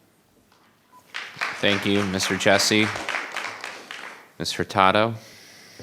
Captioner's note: audience applauding